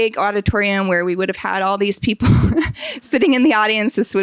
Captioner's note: laughing